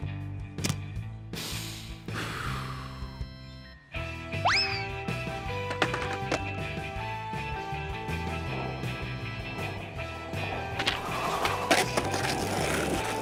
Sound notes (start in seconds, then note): 1.2 inhales and exhales deeply